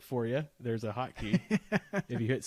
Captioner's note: laughs